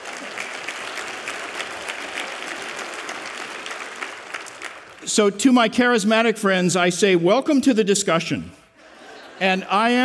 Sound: applause

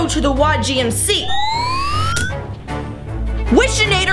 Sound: machine whistles

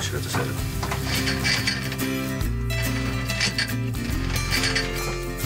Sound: anchor chain rattling

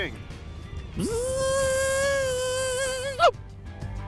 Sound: buzzing

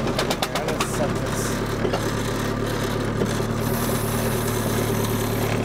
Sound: motor continues rumbling

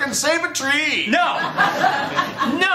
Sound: laughter

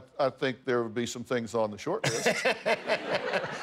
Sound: laughter

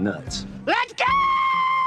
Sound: shrieks

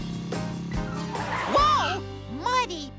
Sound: tires Screech

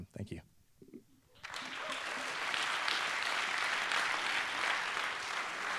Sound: applause

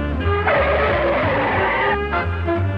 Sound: tires screeching

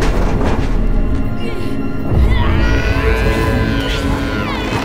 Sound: groans and screams

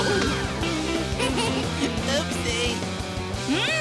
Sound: giggling

